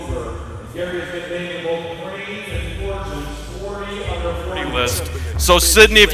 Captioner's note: speaking off mic